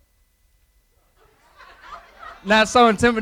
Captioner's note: laughter